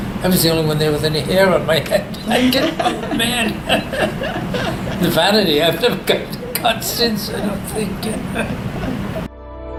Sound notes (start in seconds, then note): 3.2 all laugh; 8.4 laughs